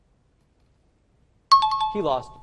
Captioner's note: time chime